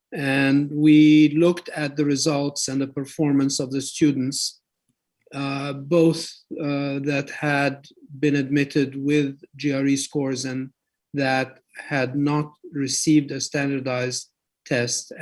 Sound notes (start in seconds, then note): none